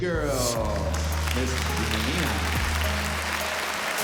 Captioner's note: applause